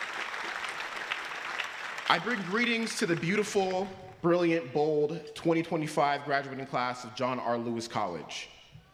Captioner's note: applause